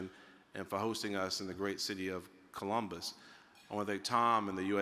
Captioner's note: utensil clinking